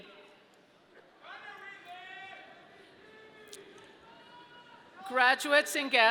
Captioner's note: audience member shouting